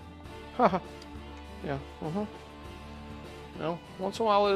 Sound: laughs

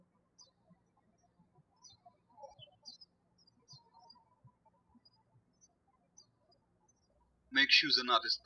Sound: birds chirping

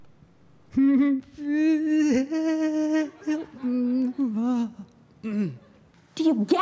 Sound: wails

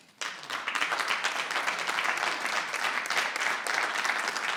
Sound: audience clapping

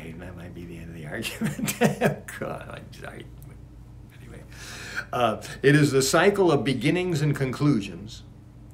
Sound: laughs

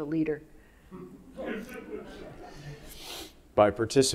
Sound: audience laughing

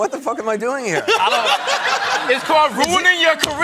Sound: laughter

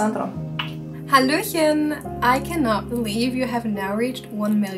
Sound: in foreign language

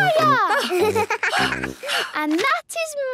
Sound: giggles; panting

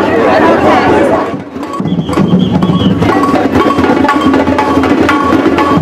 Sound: drums, whistles and cheering

